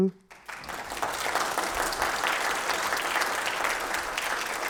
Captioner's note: audience applauds